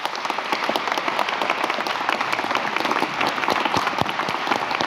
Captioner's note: audience applauds